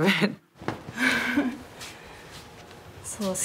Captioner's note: chuckles